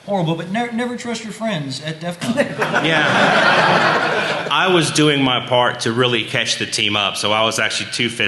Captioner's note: laughter